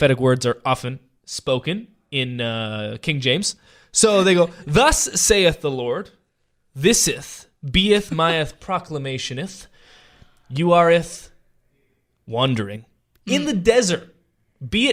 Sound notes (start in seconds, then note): 3.7 laughing